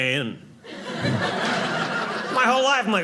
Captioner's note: audience laughing